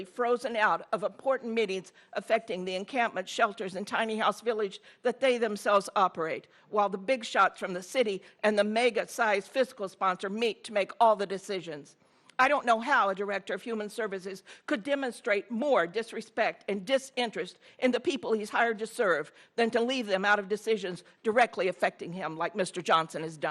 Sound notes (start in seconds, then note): none